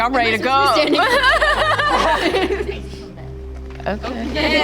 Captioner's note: teens laughing